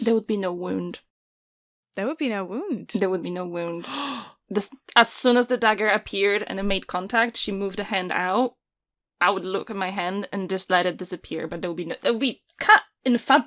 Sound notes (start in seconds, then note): 3.8 gasps! His gasp speaks for all of us, I think